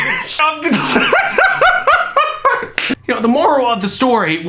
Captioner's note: laughing